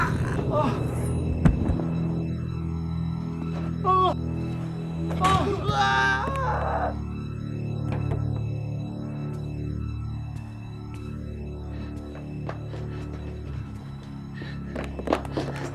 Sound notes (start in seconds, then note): 0.2 Steven screams; 3.5 suspenseful music; 7.3 screaming; 10.1 suspenseful music